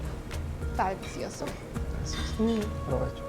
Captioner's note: speaking Spanish